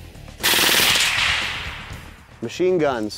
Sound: rapid gunshots

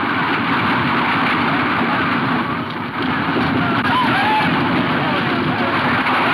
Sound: horses galloping; men whooping and shouting

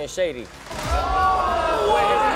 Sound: audience exclaiming

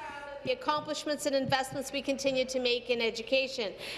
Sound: speaking in French

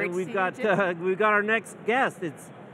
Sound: chuckling

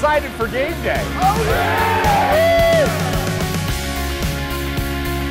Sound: cheering

